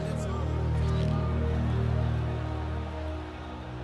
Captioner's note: crowd jeering